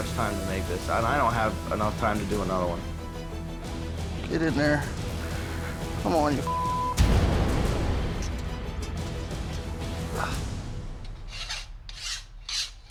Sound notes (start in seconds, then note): 6.4 sizzling; 11.0 grinding